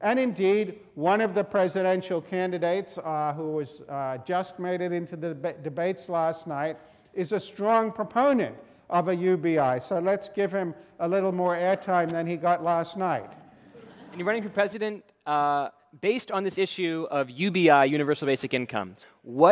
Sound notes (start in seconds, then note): 13.4 students laughing